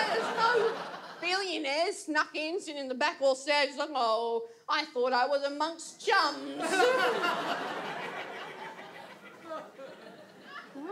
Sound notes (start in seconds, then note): 6.6 audience laughs